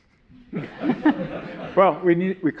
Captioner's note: all laughing